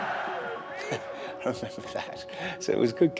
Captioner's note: laughs